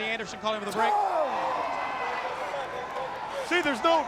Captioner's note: crowd cheering